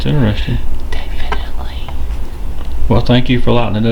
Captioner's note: whispers